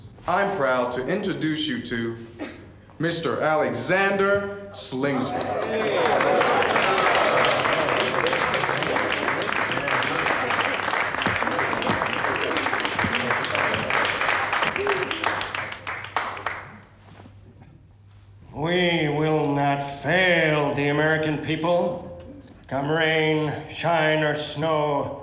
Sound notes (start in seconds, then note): 5.9 applause